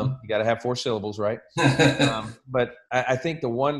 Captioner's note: laughs